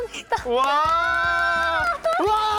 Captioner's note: scream~~